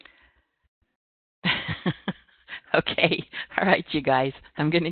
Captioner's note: chuckles